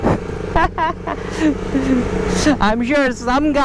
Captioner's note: laughter